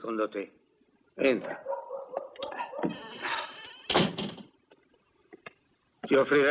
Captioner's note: door closes